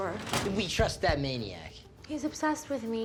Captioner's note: French